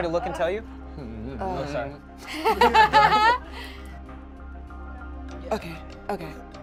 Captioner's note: laughs